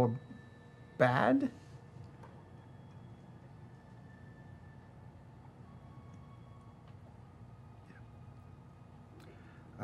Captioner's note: whispers